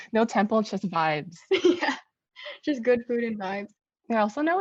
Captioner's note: laughs